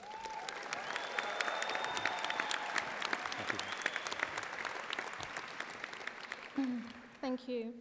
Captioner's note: audience applauding